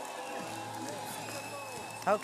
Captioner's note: speaking in French